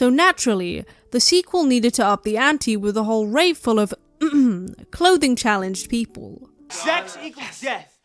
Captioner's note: ahem